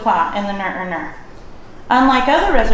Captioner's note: non-english speech